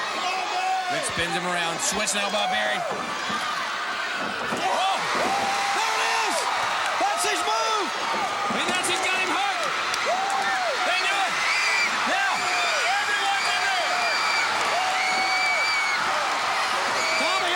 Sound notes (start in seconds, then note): 12.5 crowd clamoring; 15.6 blows thudding